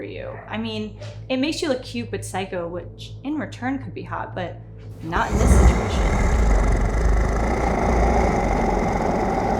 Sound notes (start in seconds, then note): 5.0 Julia growling